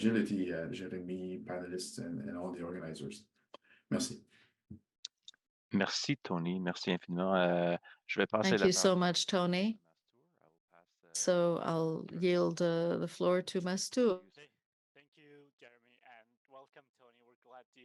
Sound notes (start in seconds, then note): 4.3 speaking French